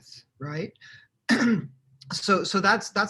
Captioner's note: clearing throat